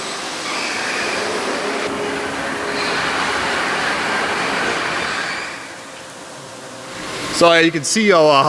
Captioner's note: machine Noises